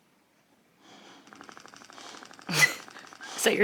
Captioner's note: toy buzzing; chuckles